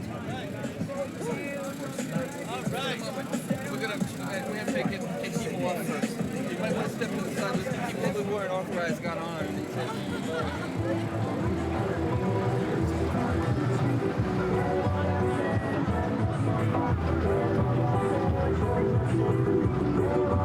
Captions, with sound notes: - All right! We're have to get people off of here. (overlapping chatter) (Latin music)